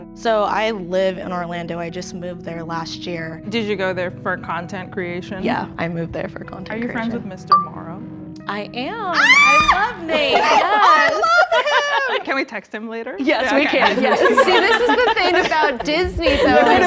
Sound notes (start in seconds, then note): 9.1 screams